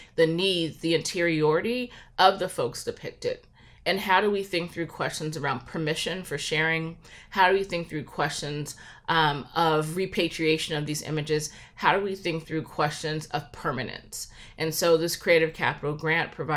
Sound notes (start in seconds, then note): none